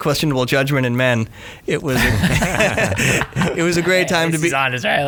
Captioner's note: guys laughing